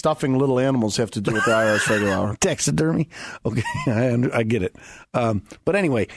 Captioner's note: laughing